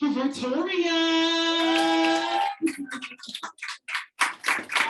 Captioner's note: audience applauding